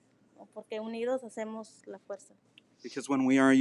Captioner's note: speaking in foreign language